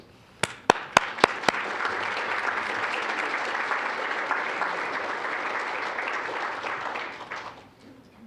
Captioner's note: applause